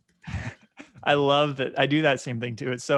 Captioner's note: chuckling